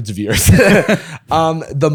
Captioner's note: laughter